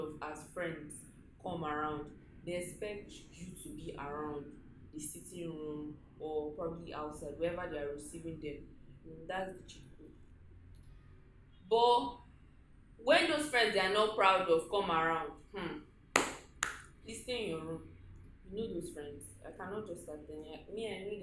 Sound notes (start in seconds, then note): 16.1 dramatic african clap